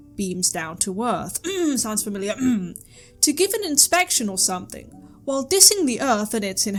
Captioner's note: cough cough; cough, cough